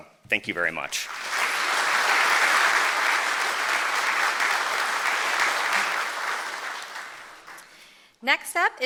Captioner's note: applause